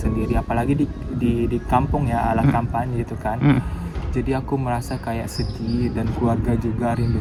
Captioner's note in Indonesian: berdehem